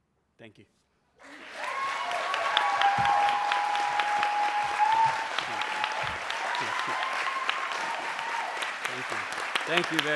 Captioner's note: applause